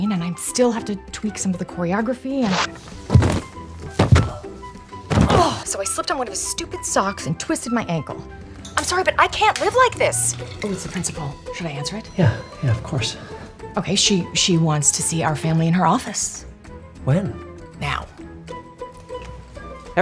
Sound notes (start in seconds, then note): 2.4 slipping sound; 2.5 thudding; 18.8 whimsical music